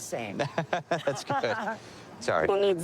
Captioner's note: laughing